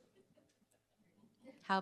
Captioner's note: chuckles